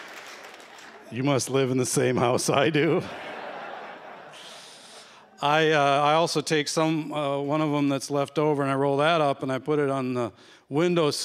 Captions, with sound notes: You must live in the same house I do. [chuckles] [laughter] I also take some-- one of them that's left over, and I roll that up, and I put it on the window sill